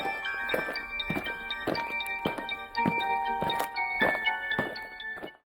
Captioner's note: eerie music; aliens marching